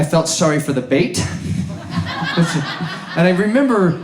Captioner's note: audience laughs